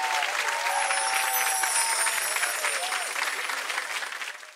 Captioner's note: chimes ring